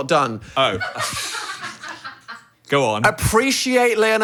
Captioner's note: staff laughing